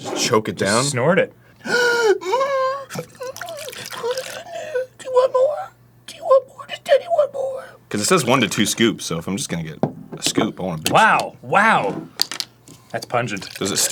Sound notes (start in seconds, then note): 1.6 gasps a little; 2.9 whines/whinnies too